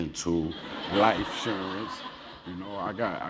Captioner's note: laugh